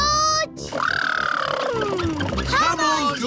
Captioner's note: makes sputtering noises